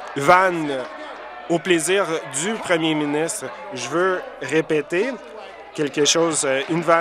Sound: applause

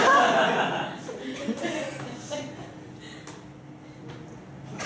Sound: students laughing

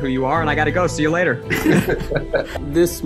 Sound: both laughing

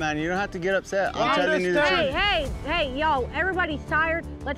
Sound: arguing

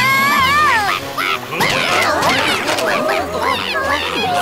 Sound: Duri screams; duck screams frantically

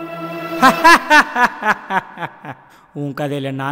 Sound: laughs

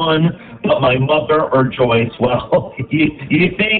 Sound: laughs

